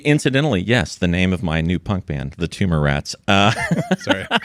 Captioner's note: laughing